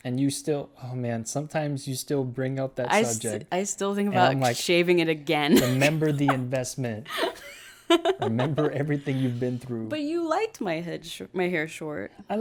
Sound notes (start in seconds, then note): 5.5 laughs